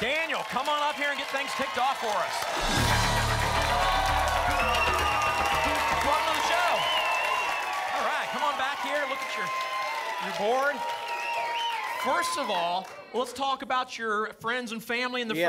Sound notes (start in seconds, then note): 4.4 applause and cheering cont